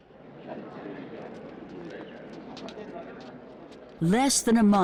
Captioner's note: crowd clamoring